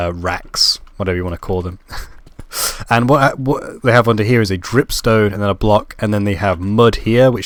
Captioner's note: laugh